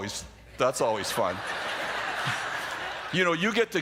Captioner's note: laughter